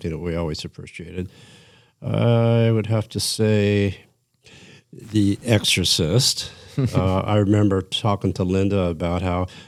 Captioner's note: laughter